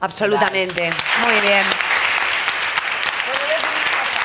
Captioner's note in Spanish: Aplausos